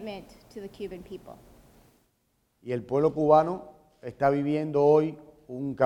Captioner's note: speaking in Spanish